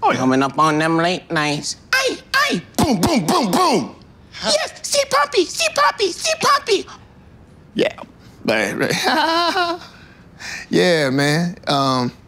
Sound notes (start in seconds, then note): 8.5 laughing nervously